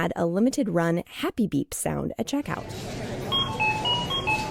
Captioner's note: SFX- Happy Beep